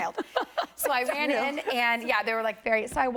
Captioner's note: laughter